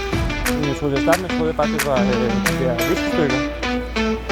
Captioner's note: Danish Speaking